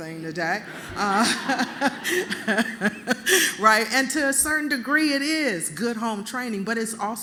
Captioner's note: laughter